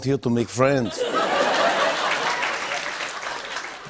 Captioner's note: applause